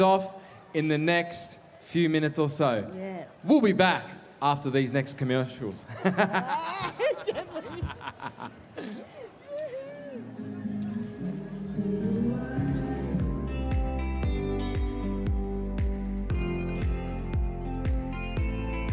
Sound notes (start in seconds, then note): 12.8 laughs